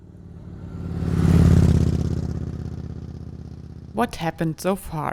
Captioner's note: motorbike engine roaring